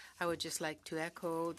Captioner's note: speaking French